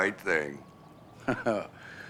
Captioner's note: chuckles